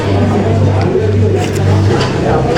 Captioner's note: slurping